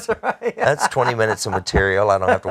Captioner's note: laughs